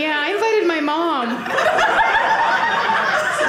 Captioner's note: audience laughing